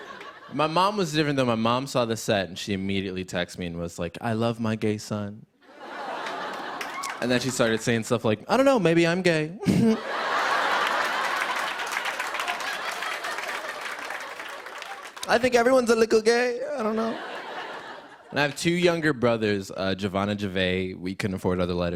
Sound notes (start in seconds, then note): 5.6 laughter; 9.6 chuckles smugly; 9.6 laughter and applause